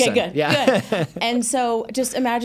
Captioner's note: chuckles